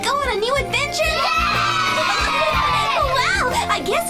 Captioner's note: kids cheering